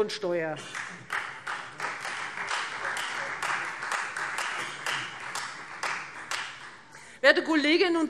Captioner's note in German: Beifall Freie Demokraten